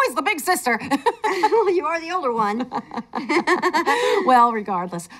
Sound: chuckles; laughs

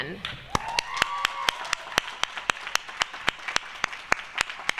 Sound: applause

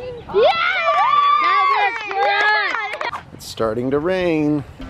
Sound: kids cheering

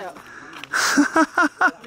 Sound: man laughing

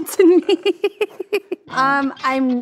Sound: laughs

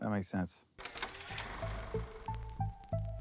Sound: projector rolling; electronic melody

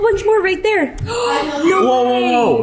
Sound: gasps

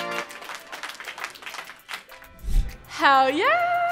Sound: triumphant music; applauding

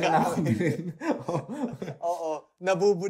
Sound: laughs

